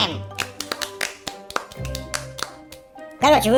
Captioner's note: feeble applause